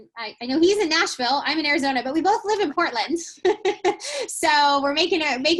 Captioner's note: laughing